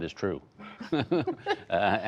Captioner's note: laughter